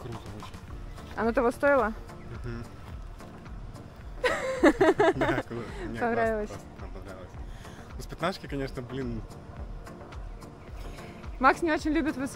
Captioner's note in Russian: смеется